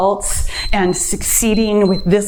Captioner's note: timer beeps